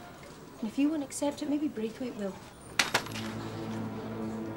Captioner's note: file thudding; soft tense music